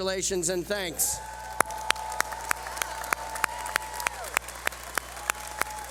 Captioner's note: cheering